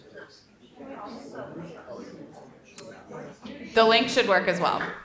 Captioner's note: students chattering